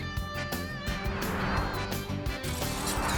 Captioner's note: whoosh; shattering glass